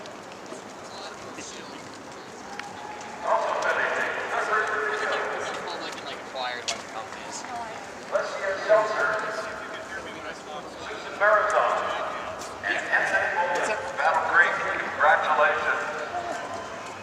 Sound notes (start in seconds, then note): 5.9 unintelligible Crowd Chatter